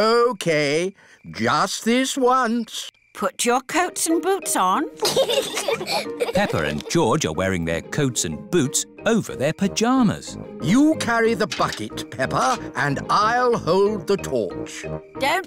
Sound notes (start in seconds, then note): 5.0 both giggle